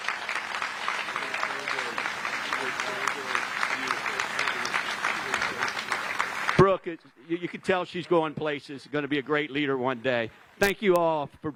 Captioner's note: applause